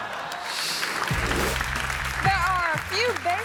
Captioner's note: audience laughing; hands clapping; graphic whooshes